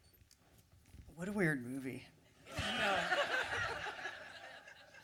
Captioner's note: laughter